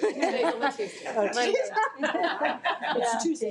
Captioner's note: laughing